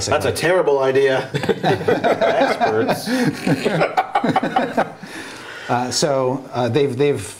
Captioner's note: laughter